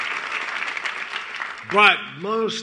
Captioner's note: applause